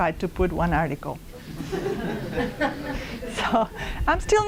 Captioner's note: laughter